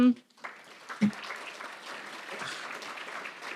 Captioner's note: applause